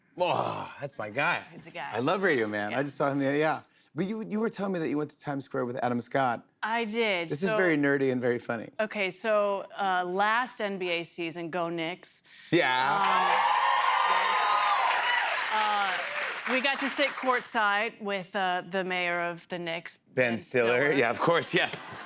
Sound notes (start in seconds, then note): 12.6 cheers and applause